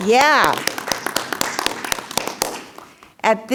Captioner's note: clapping